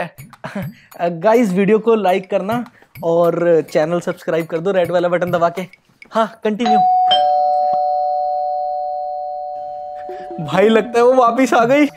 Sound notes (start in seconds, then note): 6.6 doorbell rings